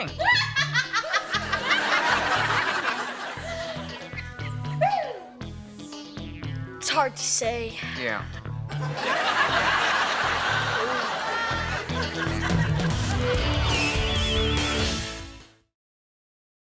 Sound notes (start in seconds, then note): 0.0 Morgan cackles; 0.1 audience laughs; 8.6 audience laughs